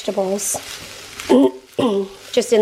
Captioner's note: clears throat